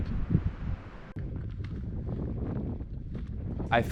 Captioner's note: sound of wind